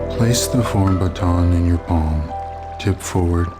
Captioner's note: voiceover